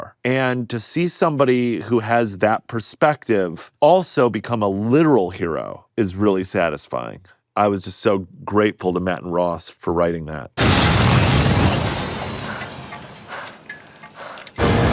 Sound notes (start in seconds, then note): 10.6 flame whooshing; 14.1 Murray panting